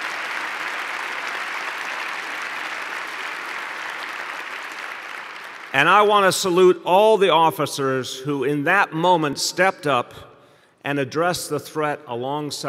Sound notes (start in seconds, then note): 4.2 applause